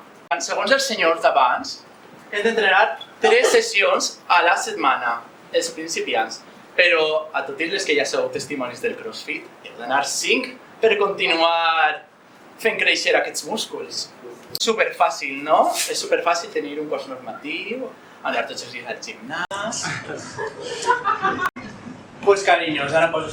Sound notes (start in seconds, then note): 19.3 laughs